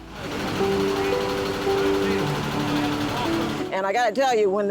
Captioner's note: truck rumbling